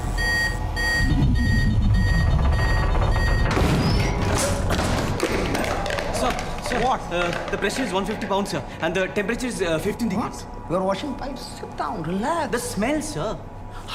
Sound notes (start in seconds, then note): 0.1 alarm continues